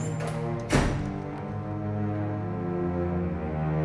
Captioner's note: door slams